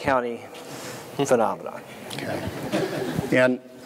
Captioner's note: laughter